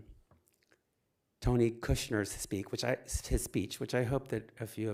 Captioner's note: none